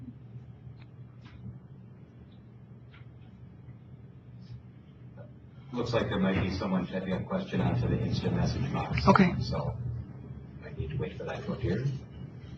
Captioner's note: moderator speaking in background